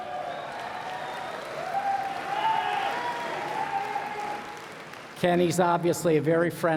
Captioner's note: cheers and Applause